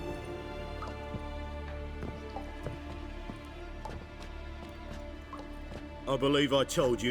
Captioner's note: water dripping